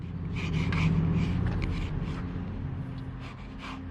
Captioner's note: pencil scratching